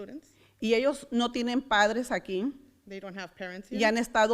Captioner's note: foreign language; foreign language